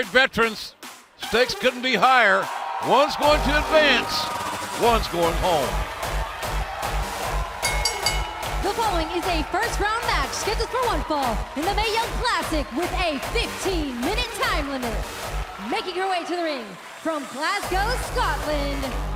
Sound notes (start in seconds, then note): 7.6 bell ringing